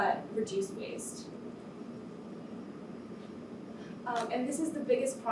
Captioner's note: air conditioner hums